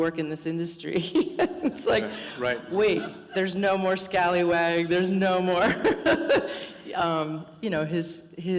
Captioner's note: laughter